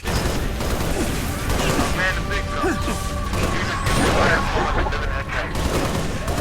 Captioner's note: guns firing; fighters grunting